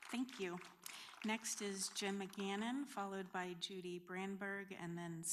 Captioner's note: applause